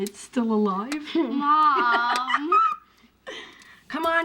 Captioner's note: laughs